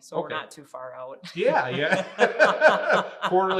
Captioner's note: both laughing